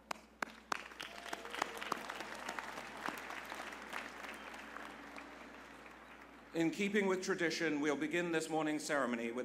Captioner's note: applause